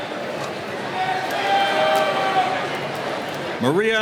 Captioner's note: cheering